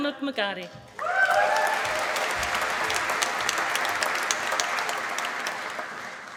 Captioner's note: applause